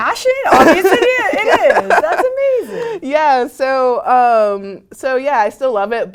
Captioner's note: laugh